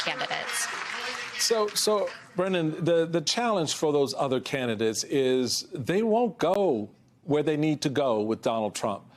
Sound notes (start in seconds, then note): 3.0 applause